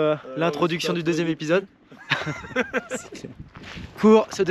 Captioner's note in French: rires